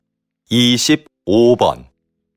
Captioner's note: Korean audio